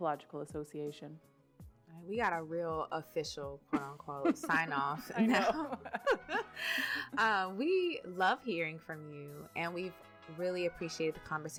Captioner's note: laughter